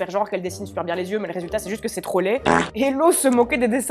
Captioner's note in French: prout